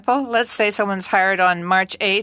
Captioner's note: speaking French